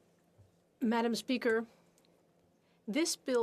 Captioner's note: speaking FRENCH